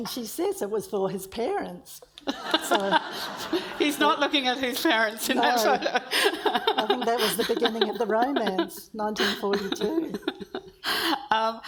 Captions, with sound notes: - It is. And she says it was for his parents, so... (audience laughs) - He's not looking at his parents in that photo. - I think that was the beginning of the romance, 1942.